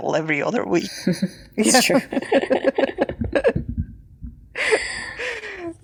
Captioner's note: chuckling